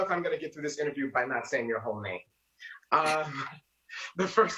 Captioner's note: both laugh